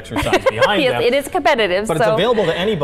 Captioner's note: laughs